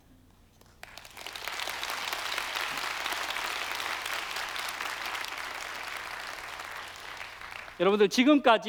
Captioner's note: applause